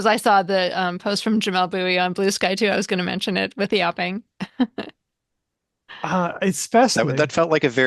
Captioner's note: chuckles